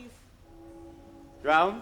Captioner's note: bell tolls